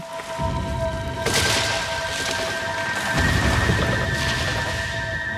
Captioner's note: trees rustling